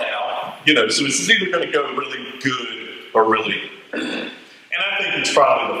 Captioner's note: raspberry